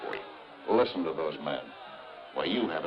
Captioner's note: people shouting